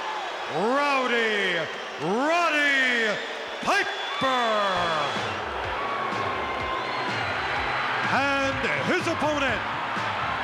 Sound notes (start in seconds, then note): 3.3 crowd boos; 5.7 crowd cheers; 7.0 rock music